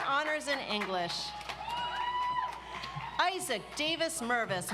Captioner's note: audience applauds